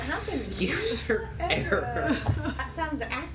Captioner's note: laughing